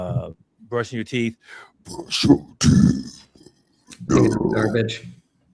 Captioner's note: deep voice